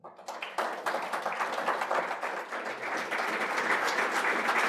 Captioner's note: audience clapping